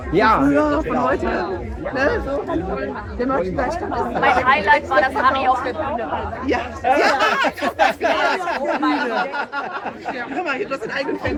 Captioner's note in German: gelächter